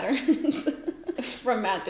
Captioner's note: laughs